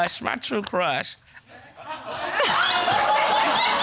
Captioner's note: audience laughing